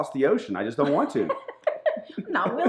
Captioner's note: woman laughing